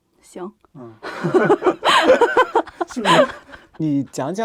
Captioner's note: both laugh